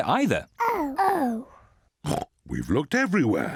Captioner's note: oinks